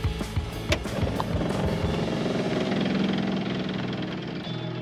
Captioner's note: pump rumbling